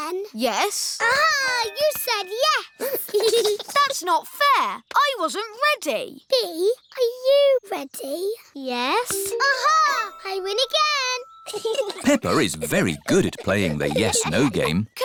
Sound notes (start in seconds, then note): 2.8 giggles; 11.4 chuckles